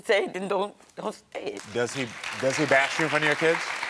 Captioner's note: audience applauding